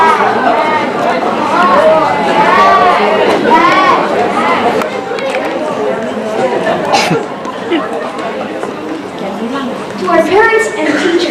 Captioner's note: overlapping arguments and laughter